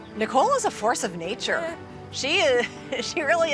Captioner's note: laughing